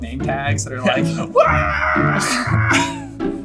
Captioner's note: screams goofily; laughs